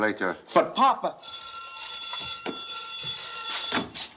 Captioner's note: phone Ringing